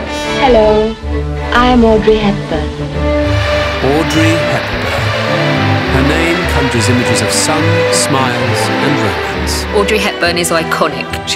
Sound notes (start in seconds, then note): 3.8 crowd clapping